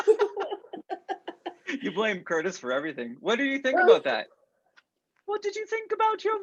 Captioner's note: laughter